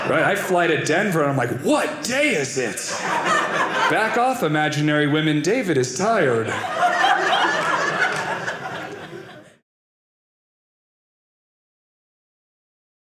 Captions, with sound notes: I'd fly to Denver, and I'm like, what day is it? (audience laughing) Back off, imaginary women. David is tired. (audience laughing)